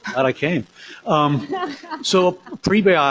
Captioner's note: laughter